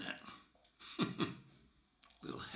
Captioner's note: laughs